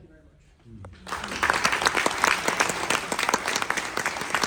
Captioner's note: audience applause